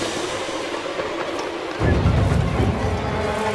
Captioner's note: low whistle